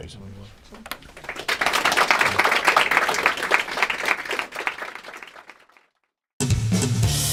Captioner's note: applause